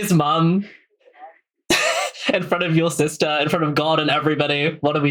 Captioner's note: laughing